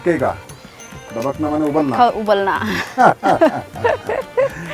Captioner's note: laughs